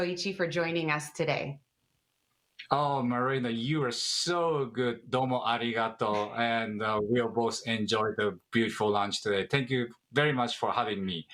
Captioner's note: speaking in native tongue